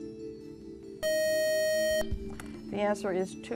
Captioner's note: buzzer